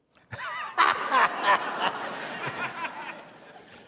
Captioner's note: laughter